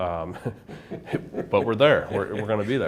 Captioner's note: both chuckle